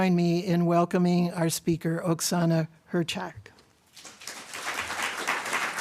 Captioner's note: applause